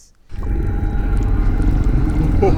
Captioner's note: sinister noises